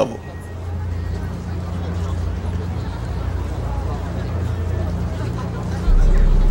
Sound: city noises, indistinct chatter

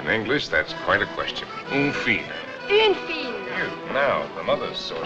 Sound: French

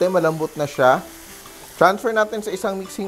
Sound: sizzling sound

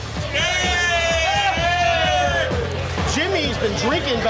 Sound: crowd cheering

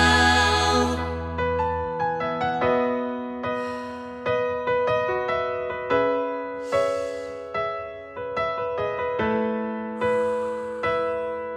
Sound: breathing

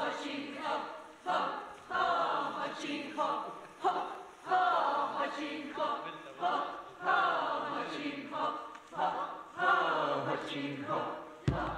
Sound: chanting

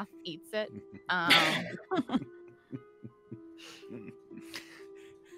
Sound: multiple chuckling

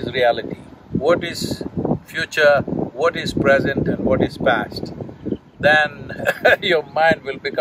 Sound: laughs

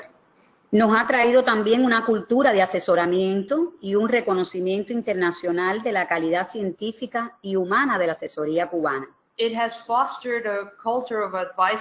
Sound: speaking another language

